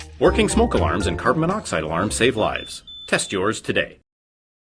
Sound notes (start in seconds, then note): 4.0 alarm ringing